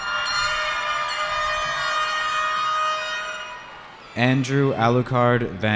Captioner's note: cheering